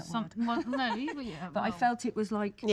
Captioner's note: giggles